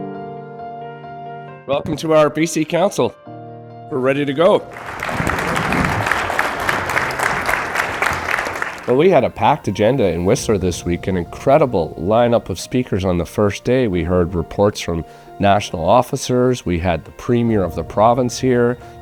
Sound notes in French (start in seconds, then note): 4.5 applaudissements